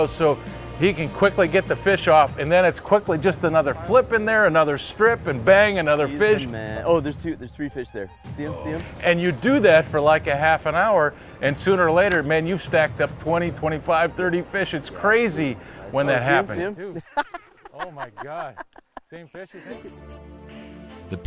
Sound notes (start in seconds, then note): 16.8 laughs